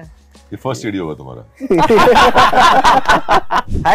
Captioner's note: laughs